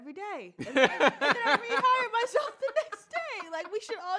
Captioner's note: laughs